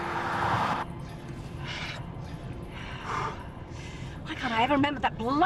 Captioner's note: both breathing heavily